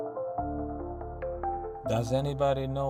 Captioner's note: narrator over music